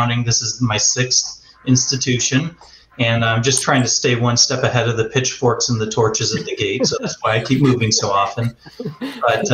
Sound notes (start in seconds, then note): 5.9 laughter